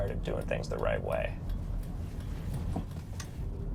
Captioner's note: signal ticking